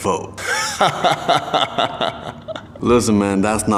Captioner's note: laughing